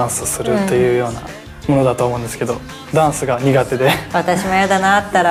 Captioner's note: laughs